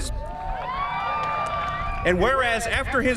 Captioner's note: cheering